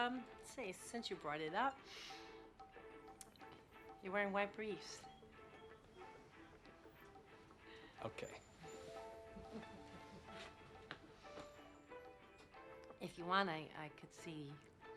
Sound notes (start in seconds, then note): 9.2 laughs